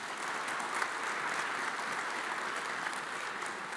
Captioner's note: audience applauds